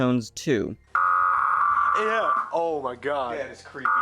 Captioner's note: low-pitched EAS header; low-pitched EAS header